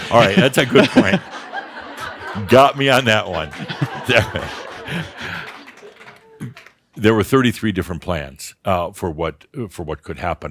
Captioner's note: they chuckle; audience laughter